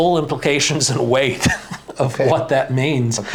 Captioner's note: chuckles